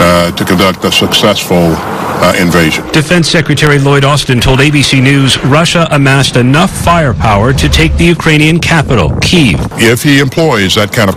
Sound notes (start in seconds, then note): 4.1 nats missile launches